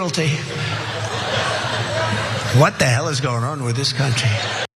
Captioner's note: laugh